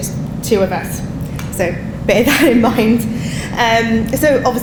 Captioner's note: laughing